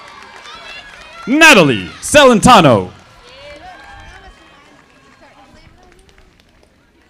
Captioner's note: audience applauding